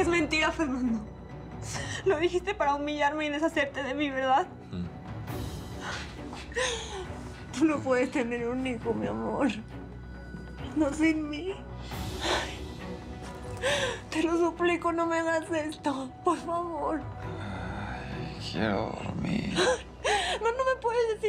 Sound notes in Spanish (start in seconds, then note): 6.4 Sollozando